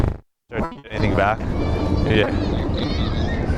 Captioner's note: audio pops